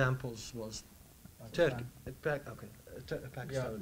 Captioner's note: murmur